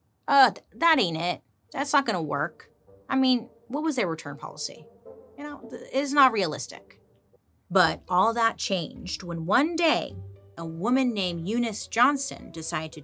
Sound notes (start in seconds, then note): none